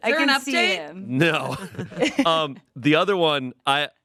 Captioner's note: laughs